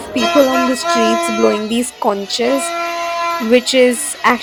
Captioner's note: air horns